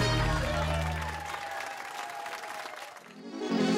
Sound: cheers and applause

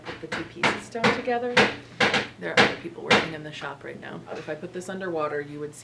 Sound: hammering background noise

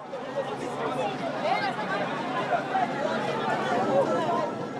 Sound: loud crowd noise

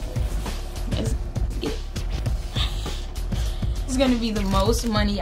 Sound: laughs

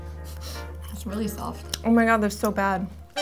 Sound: laughs

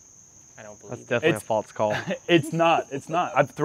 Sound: laughter

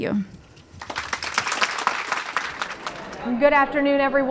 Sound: applause

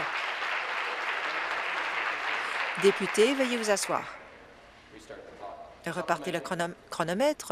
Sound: applause

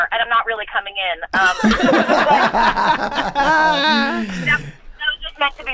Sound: all laughing

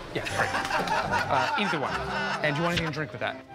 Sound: laughter

